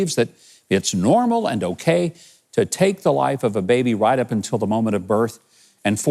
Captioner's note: none